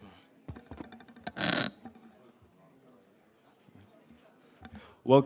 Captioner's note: mic scratches